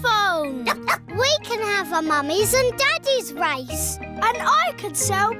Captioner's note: barks